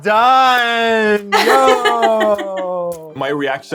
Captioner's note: laughs